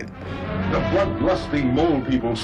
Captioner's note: soundbite of archived recording